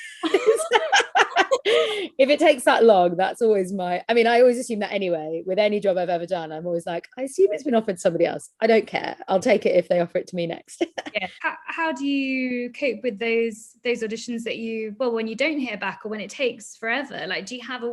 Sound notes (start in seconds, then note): 0.0 laughs